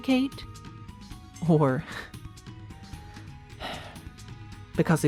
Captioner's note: sighs